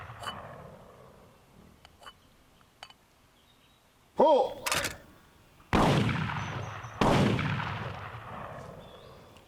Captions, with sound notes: [CLANKING SOUNDS] PULL! [CLICKING SOUND] [GUNSHOTS FIRED]